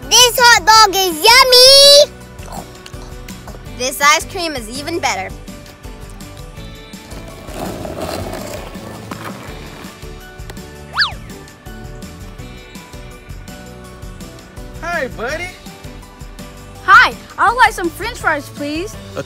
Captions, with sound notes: - This hot dog is yummy! - This ice cream is even better. (wheels grating) - Hi Buddy! - Hi, I would like some French fries, please!